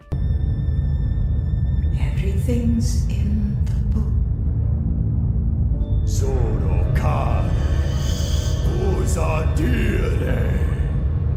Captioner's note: meancing ambiance and sounds and screams